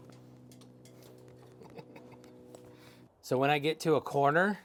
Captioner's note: laughs